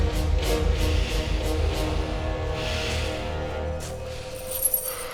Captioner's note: breathing heavily